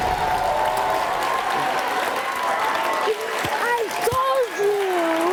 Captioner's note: crowd cheering